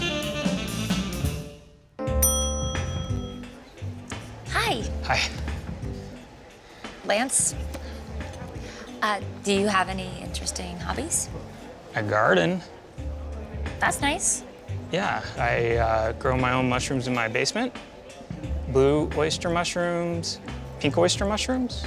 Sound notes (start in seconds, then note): 2.2 bell dings